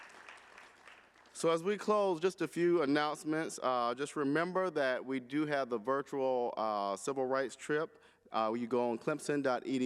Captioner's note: applause